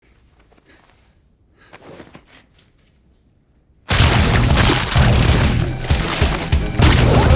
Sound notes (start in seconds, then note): 1.5 Hughie lightly gasping; 1.7 clothes rustling; 3.9 loud squelching